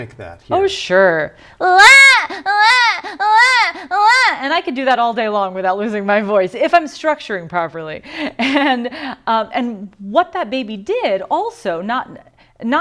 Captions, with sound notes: >> AND YOU CAN MIMIC THAT? >> OH, SURE. [ CRYING ] AND I COULD DO THAT ALL DAY LONG WITHOUT LOSING MY VOICE, IF I'M STRUCTURING PROPERLY [LAUGHTER]. AND WHAT THAT BABY DID, ALSO, NOT --